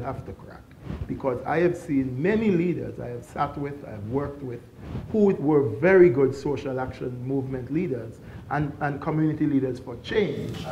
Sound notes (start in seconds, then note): none